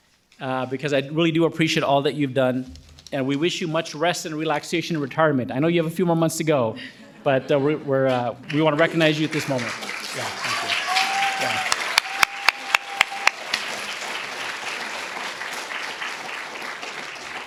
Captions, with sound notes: because I really do appreciate all that you've done and we wish you much rest and relaxation in retirement. I know you have a few more months to go, but we want to recognize you at this moment. (audience applauding)